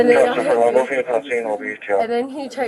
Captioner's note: radio chatter